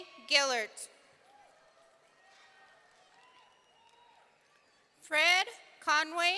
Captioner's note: audience cheering